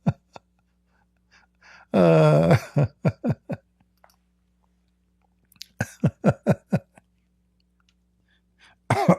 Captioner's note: Ketawa